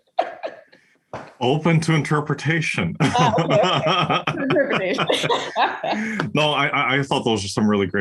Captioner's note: laugh